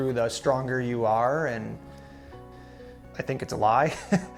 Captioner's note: chuckles